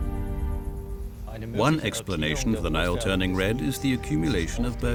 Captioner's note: in German